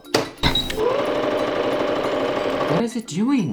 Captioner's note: machine whirring